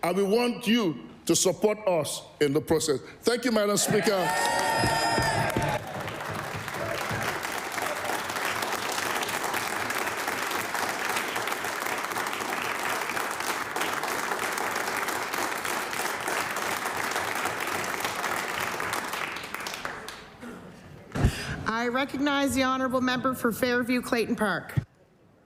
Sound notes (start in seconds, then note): 8.1 applause